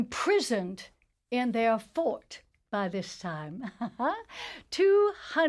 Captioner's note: laughs